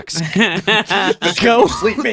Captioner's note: laughing